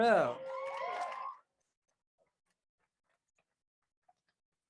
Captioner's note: crowd cheers